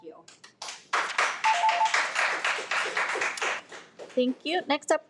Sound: applauds

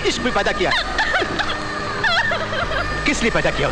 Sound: crying

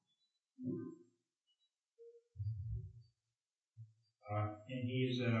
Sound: silence

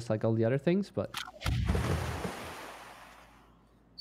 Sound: volley of booming sounds

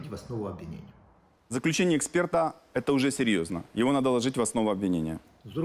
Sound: Avakov, in Russian

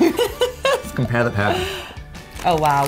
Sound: laughing

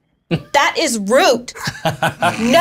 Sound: laughs

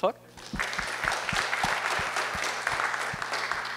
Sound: applause

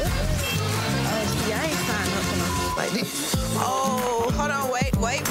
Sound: beep; beep

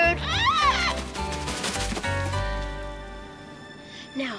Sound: squawks

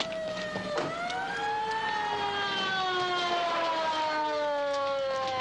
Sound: siren; sirens

